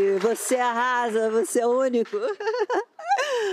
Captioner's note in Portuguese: aplausos